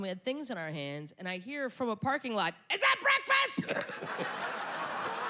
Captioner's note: yelling